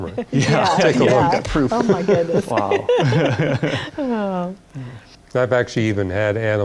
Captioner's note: laughter